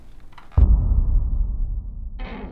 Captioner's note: dramatic boom